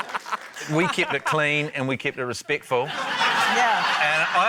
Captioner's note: laughter